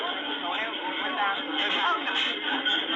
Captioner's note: music stops, indisdinct background chatter